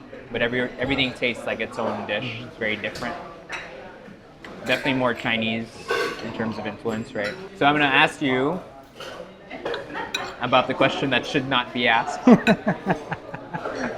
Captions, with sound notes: but everything tastes like its own dish, it's very different. Definitely more Chinese, in terms of influence, right? So I'm going to ask you about the question that should not be asked. (laughs)